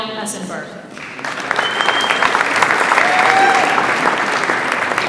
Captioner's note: audience applauds